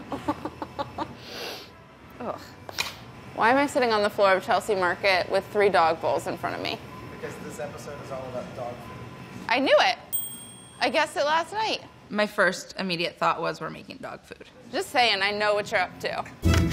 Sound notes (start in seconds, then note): 0.1 laughs; 1.2 sniffs